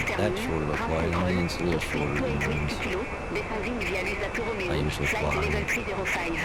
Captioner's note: radio chatter